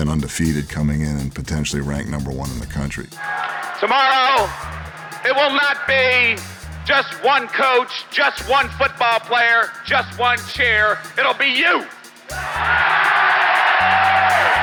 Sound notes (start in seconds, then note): 3.1 cheering